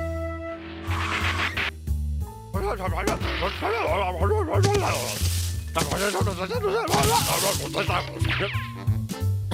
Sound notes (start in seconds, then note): 0.7 tires screech